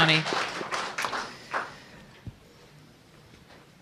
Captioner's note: applause